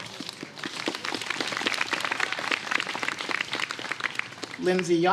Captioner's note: applause